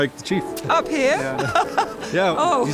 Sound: laughs

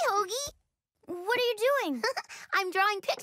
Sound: chuckles

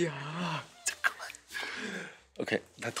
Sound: gasp

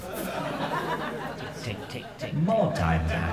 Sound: laughter

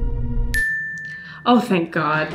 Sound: bell ding

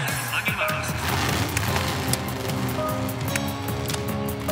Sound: engines revving

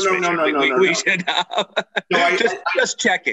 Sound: laughs

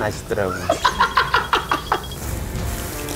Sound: laughing

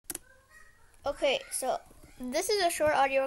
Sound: click noise

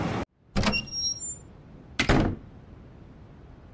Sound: door opens and closes

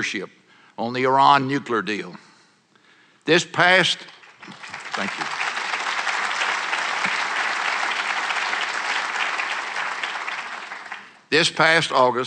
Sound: applause

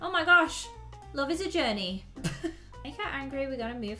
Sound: chuckles

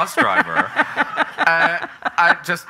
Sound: laughing

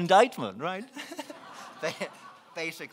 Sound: laughing

